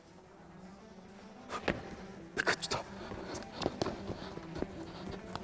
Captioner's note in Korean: 소곤소곤